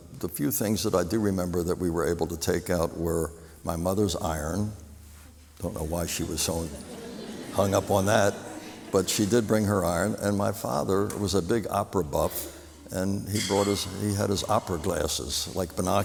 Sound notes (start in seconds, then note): 6.6 laughter